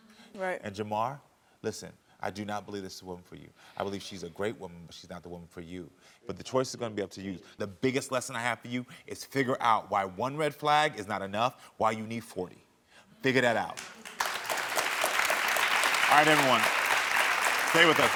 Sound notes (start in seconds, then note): 13.7 audience clapping